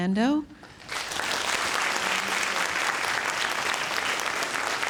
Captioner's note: audience applauding